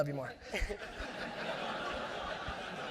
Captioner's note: audience laughs